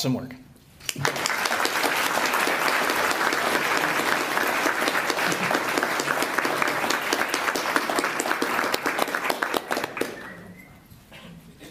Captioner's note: applause